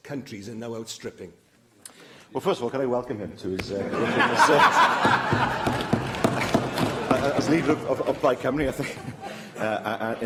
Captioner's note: laughter